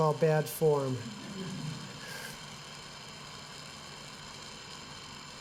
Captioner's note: laughter